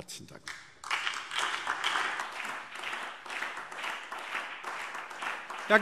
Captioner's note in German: Beifall SPD